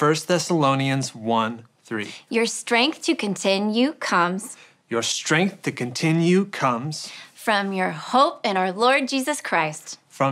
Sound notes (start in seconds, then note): none